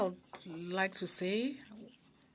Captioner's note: speaking French